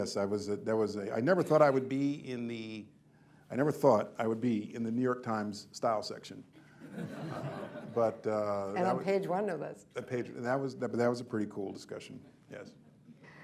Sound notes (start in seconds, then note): 6.8 laughter